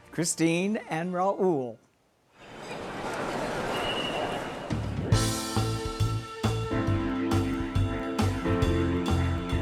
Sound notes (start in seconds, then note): 2.8 street sounds; 4.9 up-tempo music